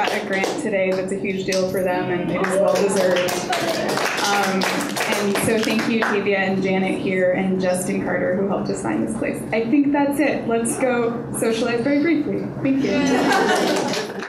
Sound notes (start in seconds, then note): 2.4 applause; 13.2 audience applause